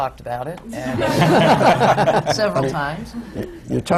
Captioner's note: laughter